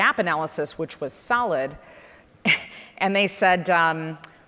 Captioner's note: chuckles